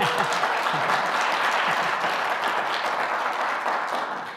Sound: audience cheering

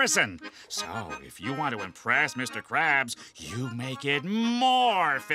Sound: none

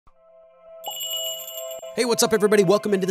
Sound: magical jingle

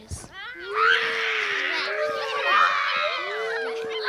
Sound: screams and howls

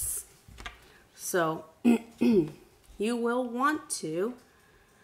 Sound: clearing throat

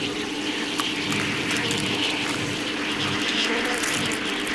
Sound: biting

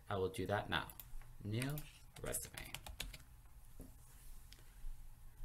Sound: typing

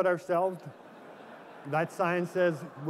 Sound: laughter

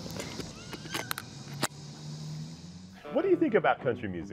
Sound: guitar case latch clicking

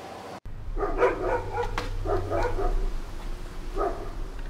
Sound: dogs barking

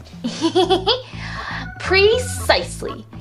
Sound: laughs

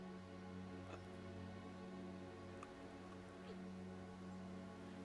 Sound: gurgling

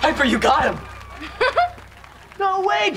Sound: chuckles

